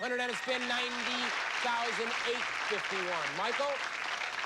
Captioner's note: cheers and applause